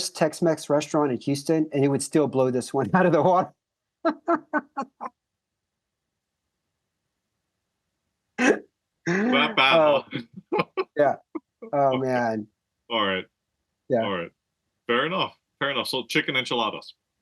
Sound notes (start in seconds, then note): 9.1 laugh